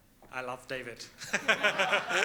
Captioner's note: laughs